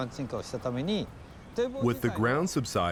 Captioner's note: speaking Japanese